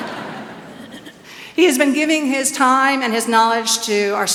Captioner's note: laughs